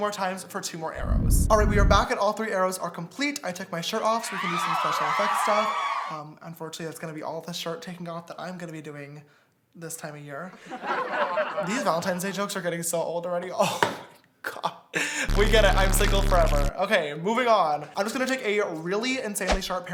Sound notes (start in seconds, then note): 4.3 audience cheering; 10.8 audience laughs